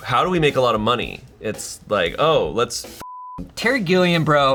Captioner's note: beep